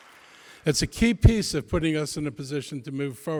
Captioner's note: applause